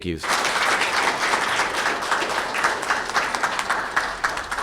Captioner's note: audience applauding